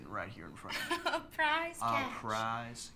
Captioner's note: laughs